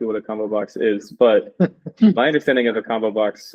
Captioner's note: chuckling